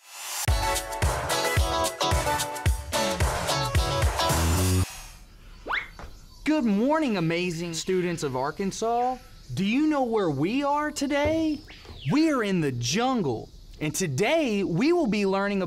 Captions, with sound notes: (upbeat music) (jungle sounds) Good morning, Amazing students of Arkansas. Do you know where we are today? We are in the jungle, and today we will be learning